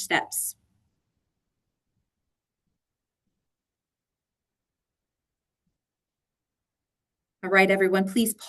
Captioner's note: silence